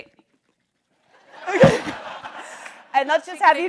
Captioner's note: audience laughs